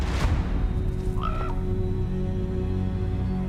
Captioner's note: none